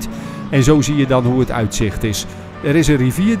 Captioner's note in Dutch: Voiceover